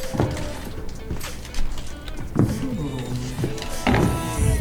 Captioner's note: humm